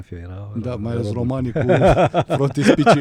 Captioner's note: laughter